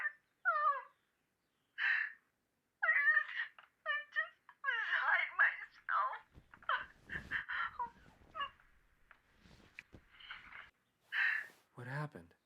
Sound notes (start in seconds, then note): 9.0 crying